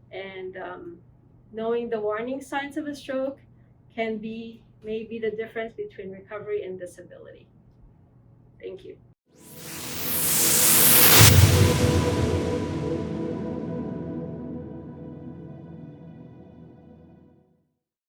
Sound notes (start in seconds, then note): 9.5 whooshing